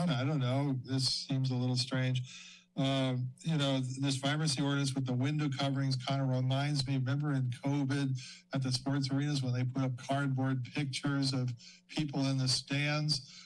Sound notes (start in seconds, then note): none